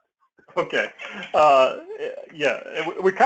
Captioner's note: laugh